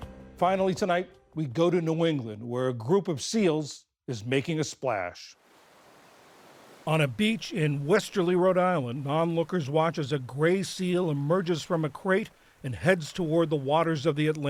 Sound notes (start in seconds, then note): 7.2 voice-over